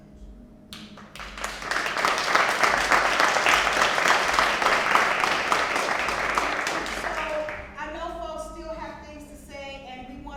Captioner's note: applause